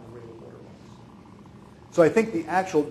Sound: speaking off microphone

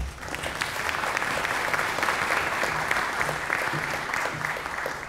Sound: applause

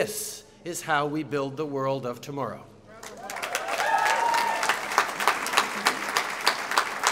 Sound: applause

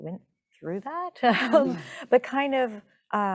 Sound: chuckling

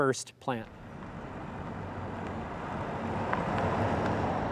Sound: car passing

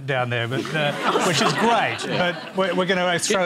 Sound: laughter

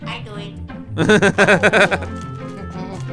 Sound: laughter

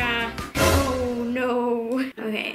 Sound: sharp sound

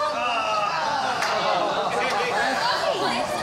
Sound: all groaning and laughing

